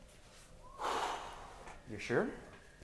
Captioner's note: sighing